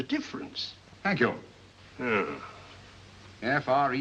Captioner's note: Lestrade grumbles